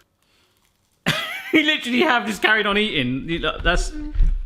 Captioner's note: laughing